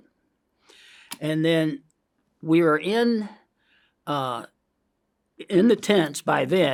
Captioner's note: inhales